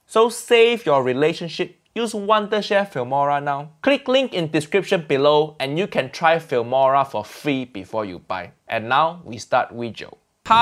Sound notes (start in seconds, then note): none